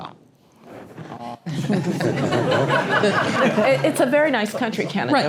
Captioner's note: laugh